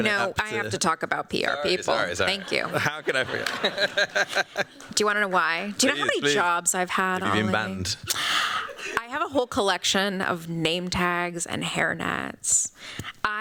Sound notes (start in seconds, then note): 4.3 laughs